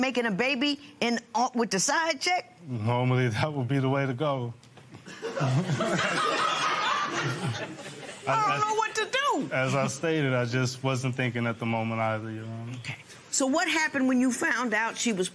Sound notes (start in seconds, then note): 5.0 laughter